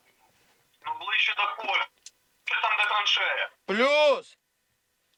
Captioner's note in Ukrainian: з рації; у рацію